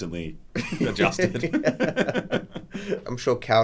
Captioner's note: laugh